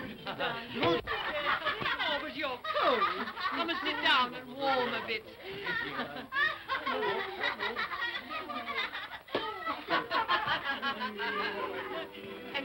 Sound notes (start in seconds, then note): 5.4 children laughing; 11.3 sentimental music